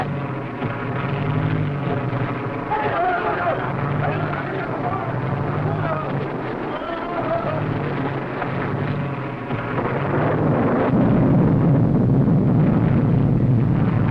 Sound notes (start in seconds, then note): 8.2 plane whirring; 8.2 thunder rumbling